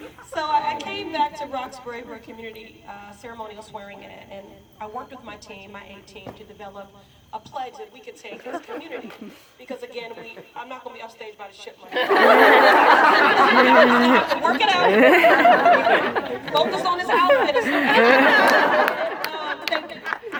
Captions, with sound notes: So I came back to Roxbury for a community ceremonial swearing in and I worked with my team, my A Team, to develop a pledge that [Scattered laughter] we could take in this community because again we I am not going to be upstage by a chipmunk. [Laughter] Work it out. Focus on this outfit or something. [Continued laughter]